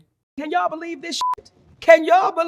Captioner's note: beep